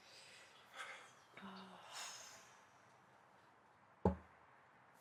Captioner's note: speaks faintly